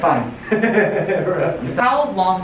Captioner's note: laughs